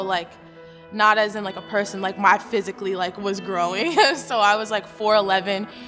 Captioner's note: laughs